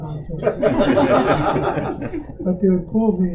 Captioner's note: audience Laughter